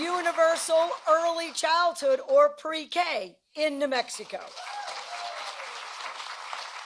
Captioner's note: applause